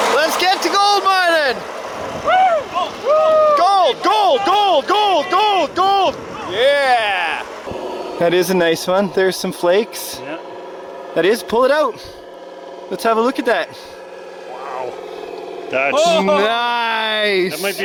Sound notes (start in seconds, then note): 2.1 whooping